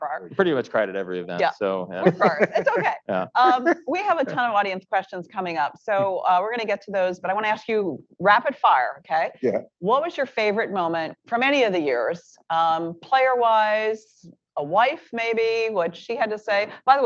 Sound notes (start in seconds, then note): 2.0 laughs